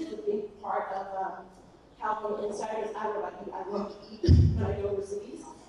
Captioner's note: laughs